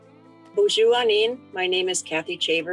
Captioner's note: speaks foreign language